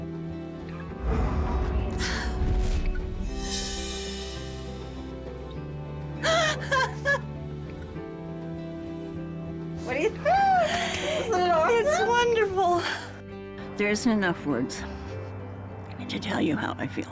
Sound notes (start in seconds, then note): 6.3 laughs